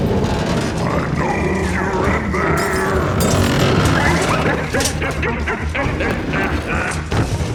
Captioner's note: cackles